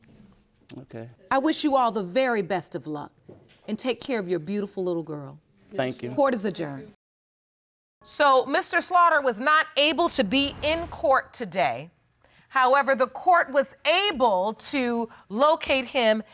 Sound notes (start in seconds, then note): none